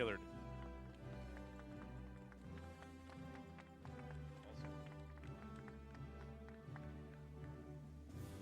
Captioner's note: applause